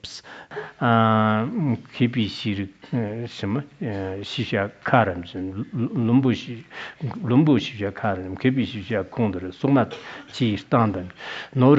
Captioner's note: citing scripture in Tibetan